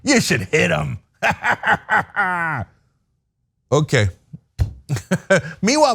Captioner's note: laugh; laugh